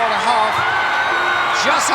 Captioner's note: audience cheering